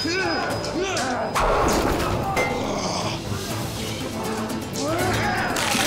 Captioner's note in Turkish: Bağırma sesleri; Dövüş sesleri; Boyun kırılma sesi